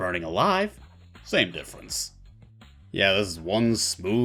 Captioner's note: tough guy voice